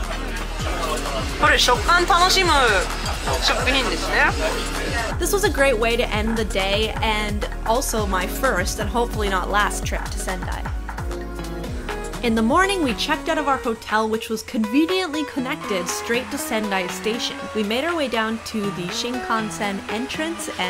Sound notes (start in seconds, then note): 1.4 speaking in foreign language; 10.9 gentle music